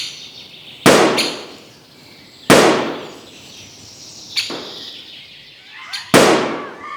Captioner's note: gunshot sounds